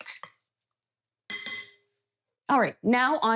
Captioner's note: spoon clinking